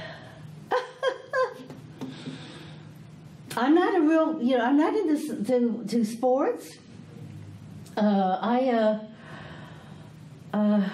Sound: laughs

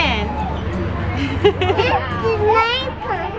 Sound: laughs

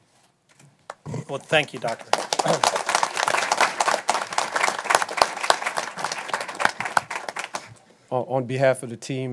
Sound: applause

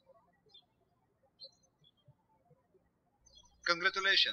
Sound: birds chirping

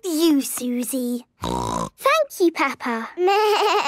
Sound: snorting; bleating

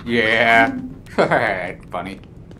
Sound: chuckles

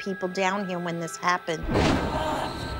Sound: groaning

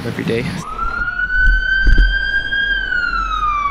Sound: siren blares

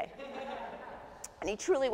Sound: audience laughs

